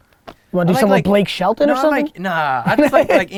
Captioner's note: laughs